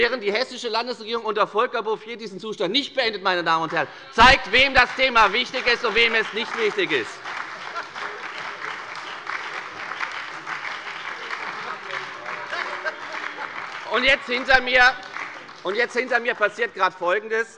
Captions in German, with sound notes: während die Hessische Landesregierung unter Volker Bouffier diesen Zustand nicht beendet. Das zeigt, wem das Thema wichtig ist, und wem es nicht wichtig ist. (Beifall bei der FDP, der SPD und der LINKEN) Hinter mir passiert gerade folgendes: